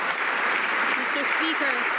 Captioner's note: some Applause